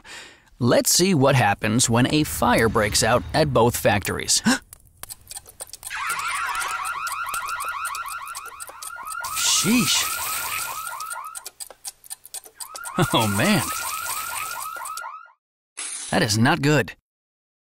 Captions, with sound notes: Let's see what happens when a fire breaks out at both factories. [gasp] [miscellaneous sirens and fire alarms] Sheesh! [miscellaneous sirens and fire alarms] Oh man. [miscellaneous sirens and fire alarms] That is not good.